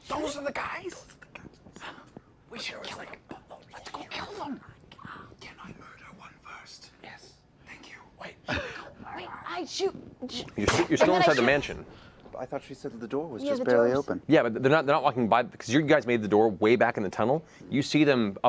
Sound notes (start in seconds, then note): 0.0 whispering